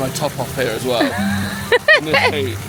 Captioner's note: laughing